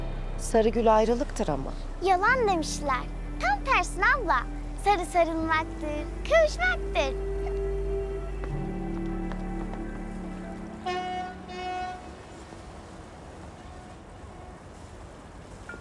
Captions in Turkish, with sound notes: Sarı gül ayrılıktır ama. Yalan demişler. Tam tersine abla. Sarı sarılmaktır, kavuşmaktır. (Vapur düdüğü çalıyor)